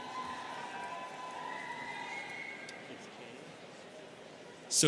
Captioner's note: students cheering